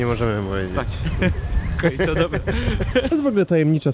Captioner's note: laughs